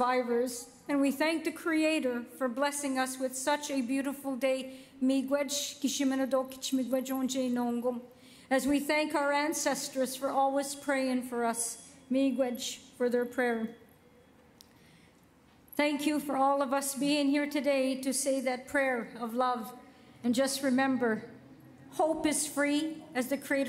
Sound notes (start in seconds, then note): 12.6 speaking Indigenous LANGUAGE